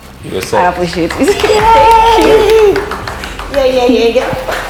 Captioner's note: clapping